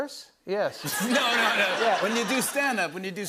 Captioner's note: laughter